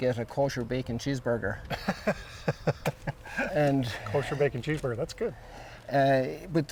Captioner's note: laughs